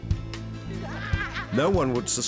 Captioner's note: laughter